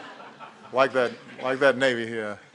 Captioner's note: laughter